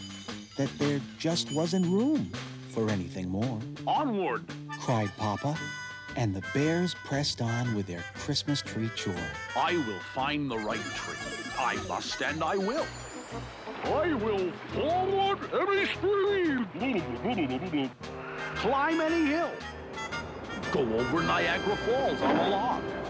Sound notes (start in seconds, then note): 16.6 gurgling